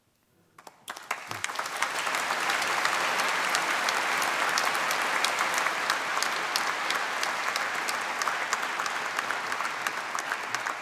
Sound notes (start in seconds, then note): 0.5 applause